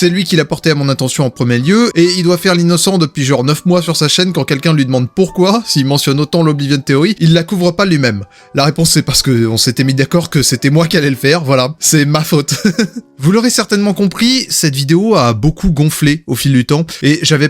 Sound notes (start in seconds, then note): 12.5 laughs